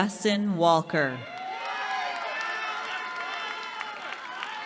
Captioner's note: cheering